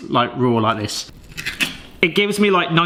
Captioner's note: can scraping